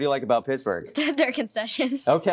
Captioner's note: laughing